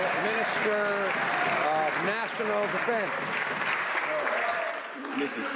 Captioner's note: some Applause